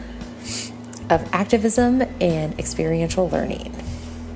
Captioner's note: sniffle; breathe out